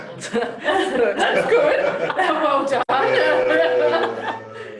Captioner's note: laughter